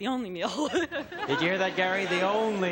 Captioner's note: laughter